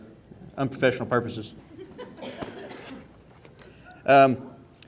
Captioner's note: audience laughing